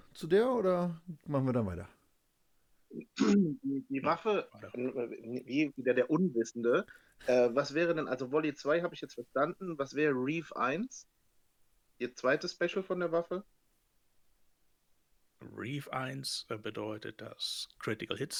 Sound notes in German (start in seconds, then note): 3.0 räuspern